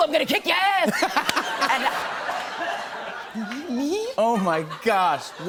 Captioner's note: laughter